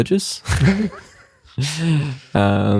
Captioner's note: laughing